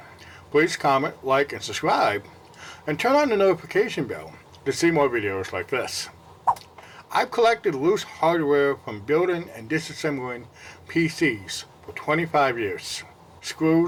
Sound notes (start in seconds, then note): 6.4 swipe Sound